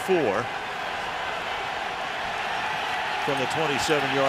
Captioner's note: cheering